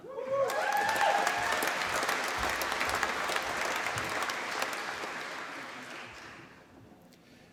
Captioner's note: applause